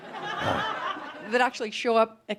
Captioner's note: laughter